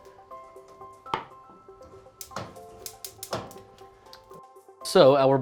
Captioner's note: gentle twinkly music; items clanking